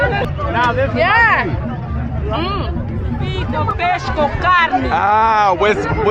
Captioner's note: people speaking in foreign language